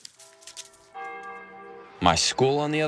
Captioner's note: leaves rustling; bell ringing